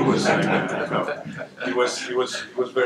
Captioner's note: laughter